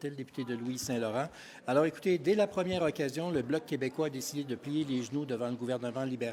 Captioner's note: French